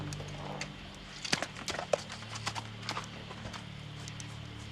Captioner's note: horse trotting